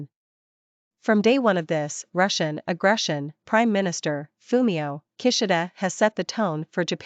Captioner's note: Russian